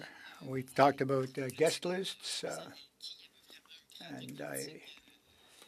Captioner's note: speaking French